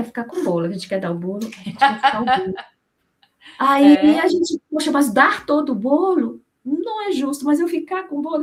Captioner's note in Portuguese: risadas